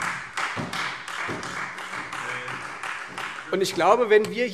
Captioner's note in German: Beifall Freie Demokraten und SPD